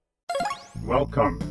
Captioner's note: speaker activates